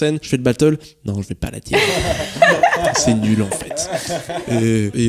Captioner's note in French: rires